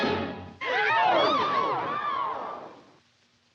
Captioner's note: all gasp and yelp